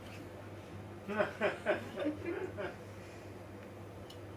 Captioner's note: audience laughs